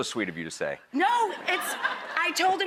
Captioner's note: audience laughs